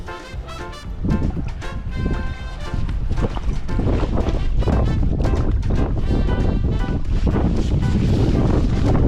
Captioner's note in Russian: шум воды